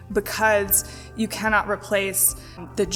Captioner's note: none